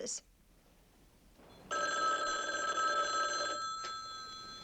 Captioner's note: rings